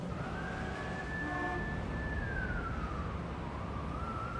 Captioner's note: siren blaring